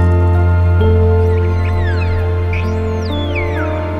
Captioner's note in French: Chants de dauphins